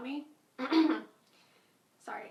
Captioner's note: clears throat